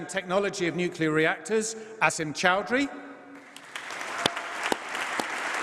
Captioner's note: applause